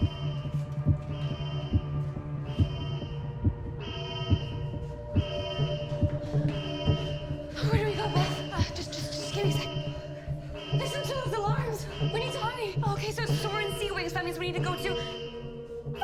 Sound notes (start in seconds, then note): 1.5 dramatic music; 3.5 alarm blaring; 9.8 alarm blaring